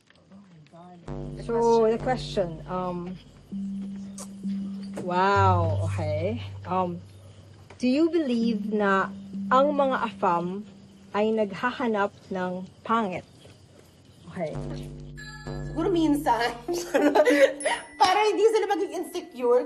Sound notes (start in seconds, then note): 16.6 laughs